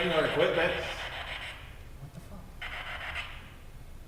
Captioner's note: static buzzing